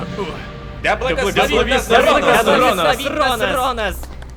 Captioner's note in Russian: Толпа